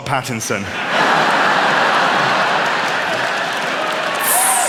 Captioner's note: laughter, applause